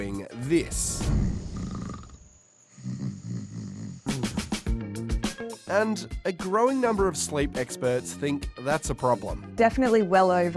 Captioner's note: snoring sound